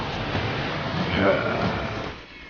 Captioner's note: satisfied growl